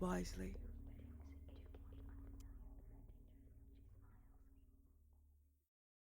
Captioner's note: although softer, the whispers continue on. Lurking, itching. Fade out